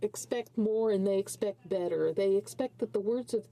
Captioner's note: speaking in French